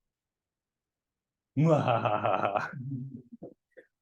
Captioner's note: mwahahahaha